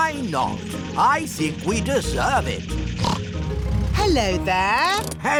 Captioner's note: snorts